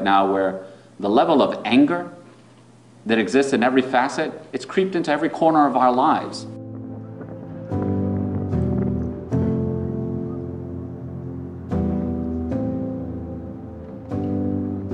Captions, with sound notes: where the level of anger that exists in every facet, it's creeped into every corner of our lives. (mellow music) (flag flapping)